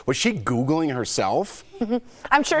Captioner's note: laughter